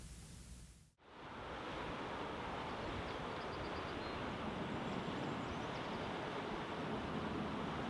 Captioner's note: creek flowing and birds chirping